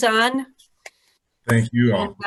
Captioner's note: claps